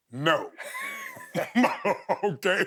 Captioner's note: both laughing